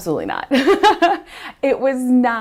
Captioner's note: laughs